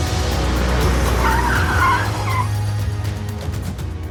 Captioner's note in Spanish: Chirrido de llantas